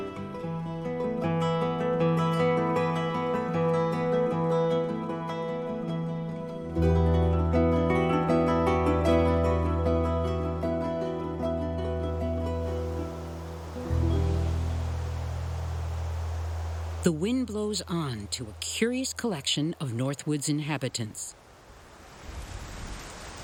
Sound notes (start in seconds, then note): 12.1 trees rustling